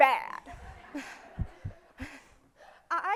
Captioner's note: crowd laughs